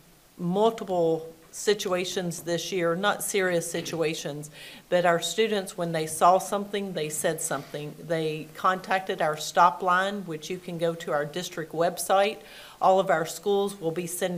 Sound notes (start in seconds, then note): none